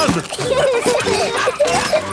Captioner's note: peppa and george laughing; straining